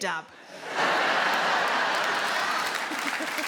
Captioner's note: audience laughs; clapping; Sarah chuckles